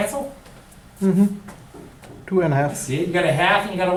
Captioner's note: voiceover